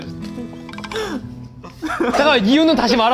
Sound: still cracking up

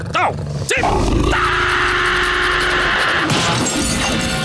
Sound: screaming

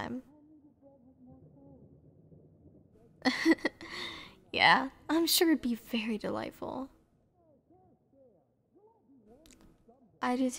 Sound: soft laugh

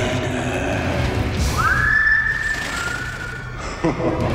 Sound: abigor whistles; abigor laughing

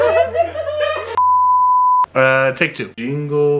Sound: beep

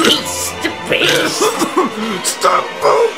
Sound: violent coughing

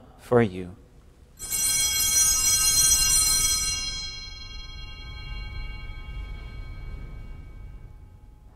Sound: bells ringing

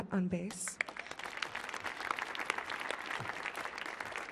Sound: audience clapping

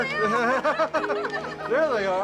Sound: laughter

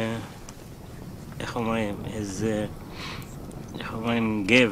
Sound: speaking arabic

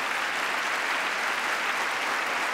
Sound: applause

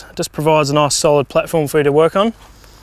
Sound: none

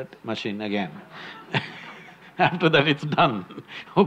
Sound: laughs

